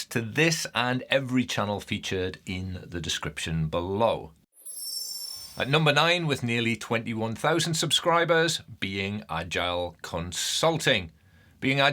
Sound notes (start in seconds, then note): 4.5 screen twinkling